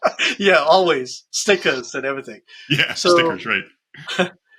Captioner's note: chuckles